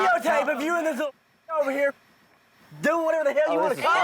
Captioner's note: muted